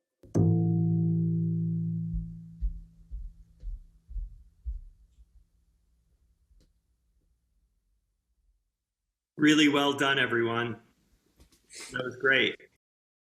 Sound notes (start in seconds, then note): 0.3 sound of bass; 4.1 silence